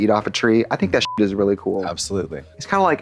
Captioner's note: beep